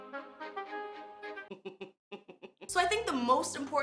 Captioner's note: chuckles